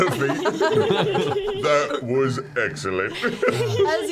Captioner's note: giggles